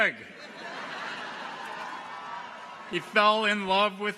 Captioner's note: audience laughs